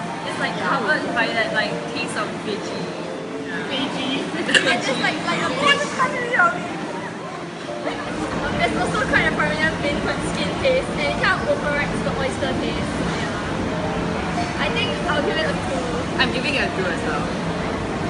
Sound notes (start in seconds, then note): 4.4 coughs; 7.8 horrid giggles from naughty children